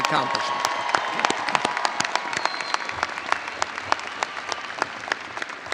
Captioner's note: audience cheering and applauding